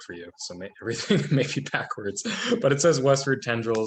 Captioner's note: laughing